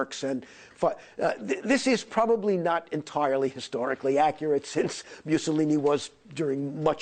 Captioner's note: german